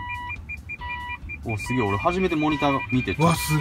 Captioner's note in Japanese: 警告音の間隔が短くなる